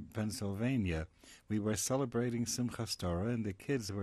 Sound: non-english

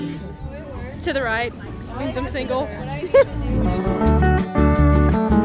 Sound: laughs

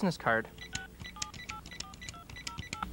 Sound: dialing

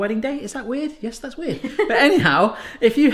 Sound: laughing

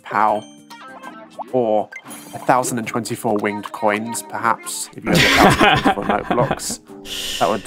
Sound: laughter

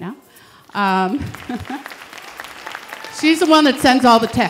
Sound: audience clapping

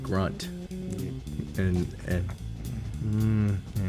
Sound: grunts

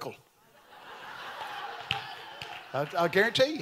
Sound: congregation laughing

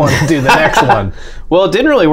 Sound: laughter

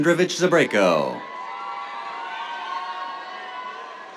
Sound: cheers

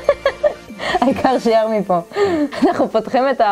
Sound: laughter

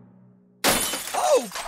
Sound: glass breaking

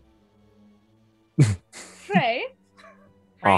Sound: chuckles

